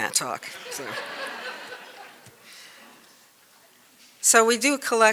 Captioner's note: laughter